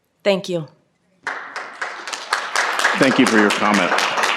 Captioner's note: applause